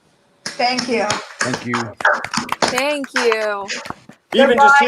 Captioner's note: participants applauding